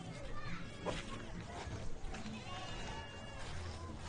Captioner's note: people chattering